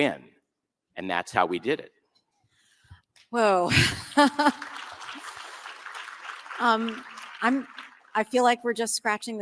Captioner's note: applause